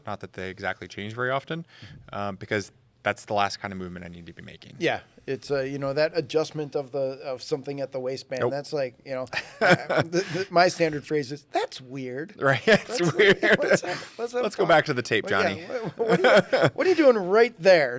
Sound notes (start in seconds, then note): 9.3 laughing; 12.5 laughing